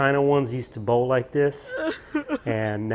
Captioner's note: crying sound